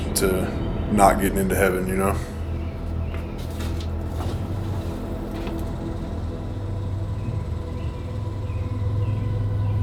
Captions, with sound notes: to not getting into heaven, you know? (footsteps approaching)